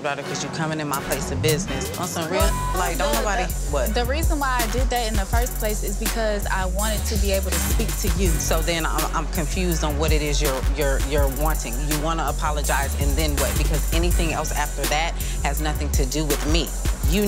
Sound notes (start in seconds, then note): 2.3 beep